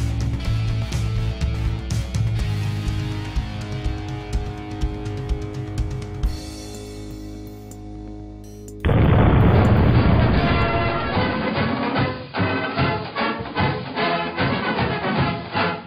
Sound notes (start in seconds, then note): 8.8 explosion